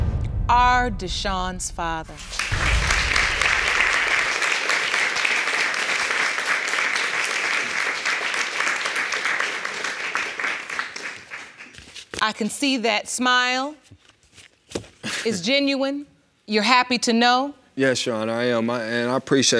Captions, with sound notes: are Deshawn's father. (AUDIENCE APPLAUDS) I can see that smile, it's genuine, you're happy to know? Yes, Your Honor. And I appreciate it, Your Honor.